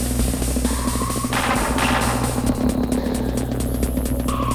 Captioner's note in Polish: Miarowe elektroniczne wystrzały